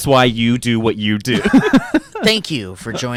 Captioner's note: laughs